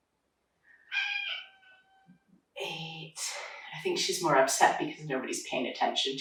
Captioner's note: cat meowing